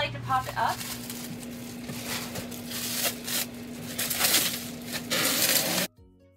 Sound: plastic wrapper rustling

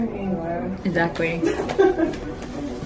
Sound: customer laughs

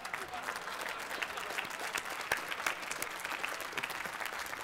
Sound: laughter; applause

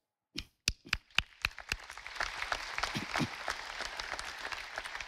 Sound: audience applauding

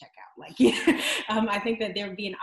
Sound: laughs

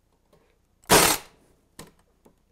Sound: staple gun

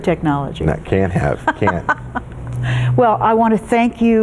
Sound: Sheila Kuehl laughs

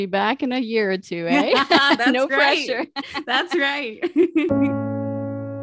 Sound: laughs

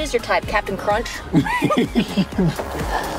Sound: laughter

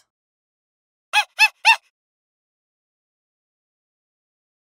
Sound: monkey hooting

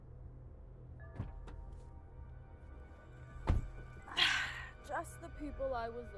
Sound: door clanking

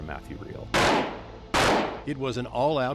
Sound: gunshots

